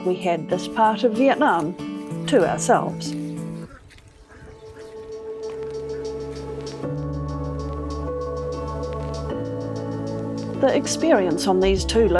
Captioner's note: ducks quacking